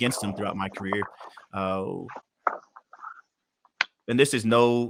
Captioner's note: pages being moved